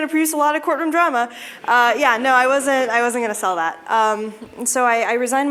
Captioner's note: laughter